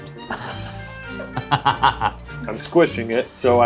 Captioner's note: laughing